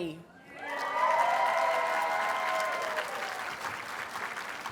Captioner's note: audience cheers and applauds